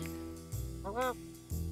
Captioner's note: mutters